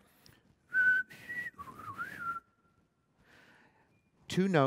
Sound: whistles the Western Meadowlark bird call

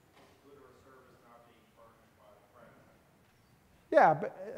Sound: student mumbling

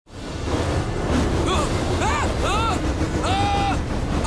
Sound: screaming

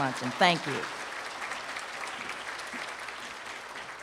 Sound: applause

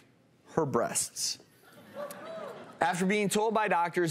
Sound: giggles and cheer

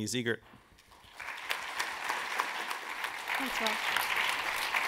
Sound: audience clapping

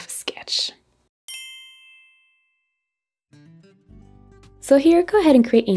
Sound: bell chiming

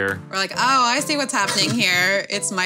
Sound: laughing

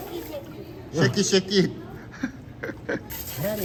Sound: laughing

